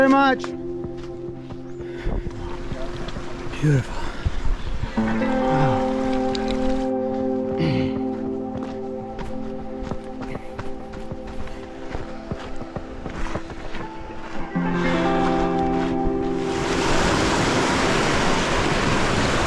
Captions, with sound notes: - Thank you very much! Beautiful. Wow. (footsteps crunching) (water rushing)